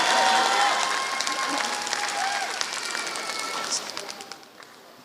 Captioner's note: applause